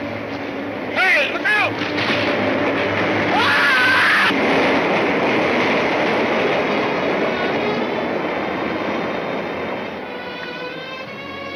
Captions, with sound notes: - Hey! Look out! (Grub screams) (somber music)